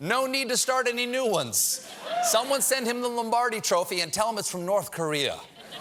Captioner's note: laughter